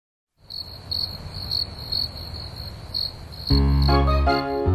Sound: crickets chirp; grand music

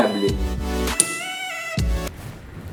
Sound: woodchip sound

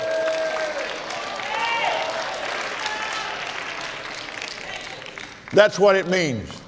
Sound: applauds

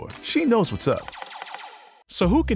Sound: laser blasting

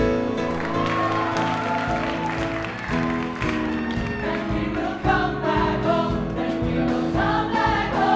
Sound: applause

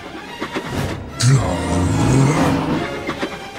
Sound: growl

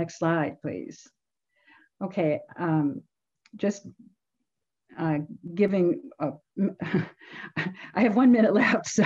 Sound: laughter

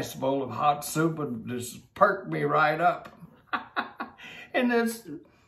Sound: laughs

